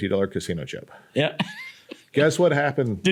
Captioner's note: laughs